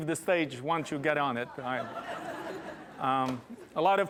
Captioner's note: laughter